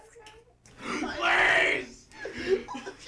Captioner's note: crying